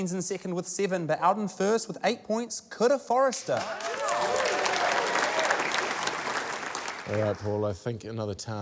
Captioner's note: cheering, applause